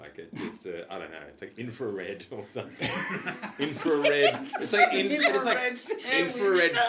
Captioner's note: laughing